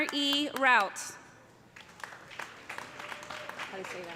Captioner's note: applause